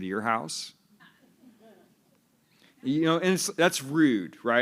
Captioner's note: laughter